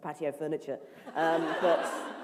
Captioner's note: laughter